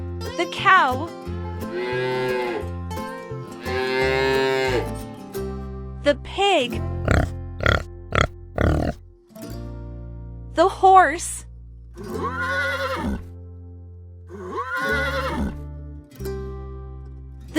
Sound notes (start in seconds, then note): 3.7 mooo!; 8.5 oink!; 12.6 neigh!